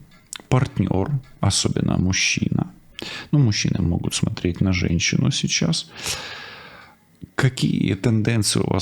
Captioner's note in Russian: вздыхает; фыркает